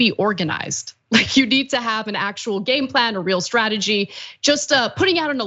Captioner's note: laugh